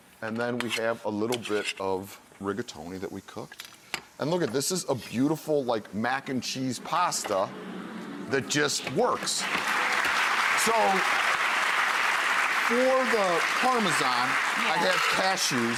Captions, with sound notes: And then we have a little bit of rigatoni that we cooked. And look, this is a beautiful like mac and cheese pasta, that just works. (audience applauding) So, for the Parmesan I have cashews,